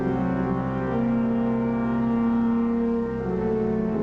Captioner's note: none